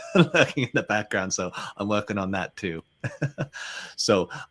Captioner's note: chuckles